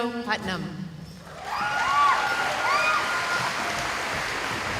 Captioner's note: cheering